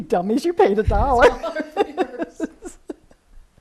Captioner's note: laughs